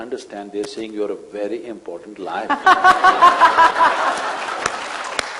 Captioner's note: laughter/Applause